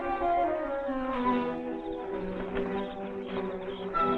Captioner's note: bushes rustling